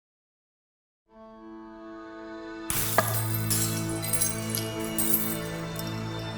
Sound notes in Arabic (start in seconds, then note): 1.1 موسيقى هادئة; 2.7 تحطم الزجاج